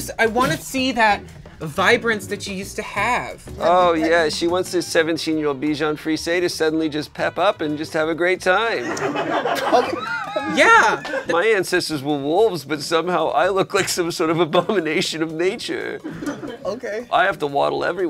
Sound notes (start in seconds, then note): 8.8 laughter